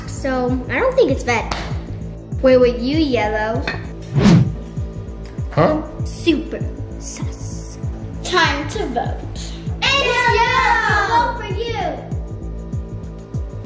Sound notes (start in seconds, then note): 4.0 wind whooshing